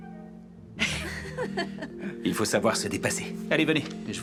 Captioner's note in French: rire